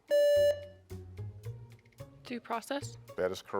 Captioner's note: buzzer beeps